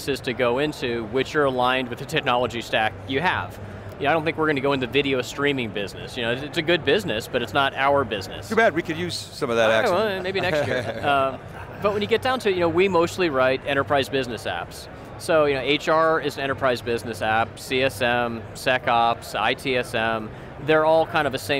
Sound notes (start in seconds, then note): 10.2 laughs